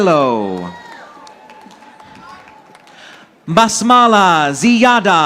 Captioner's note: audience applauding